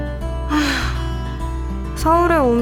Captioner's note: sigh